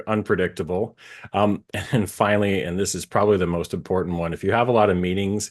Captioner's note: laugh